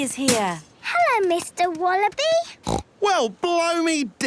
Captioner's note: snorting